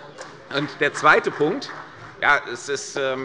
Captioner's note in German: Beifall bei der CDU und dem BÜNDNIS 90/DIE GRÜNEN